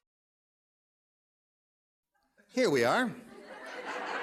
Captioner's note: laughter